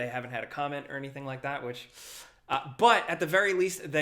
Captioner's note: inhales sharply